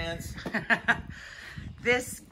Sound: Rachel laughs

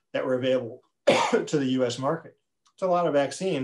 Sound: coughs

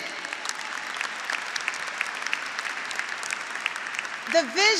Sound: graduates applauding

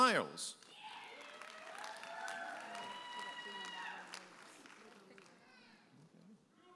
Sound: audience applauding and cheering

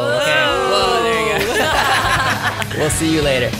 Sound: laughs

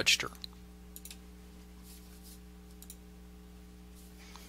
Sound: mouse clicking

